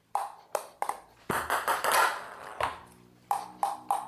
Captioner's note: ball tapping